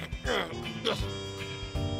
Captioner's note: grunts